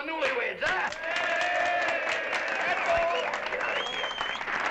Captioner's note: applause